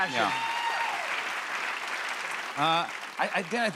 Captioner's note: cheers and applause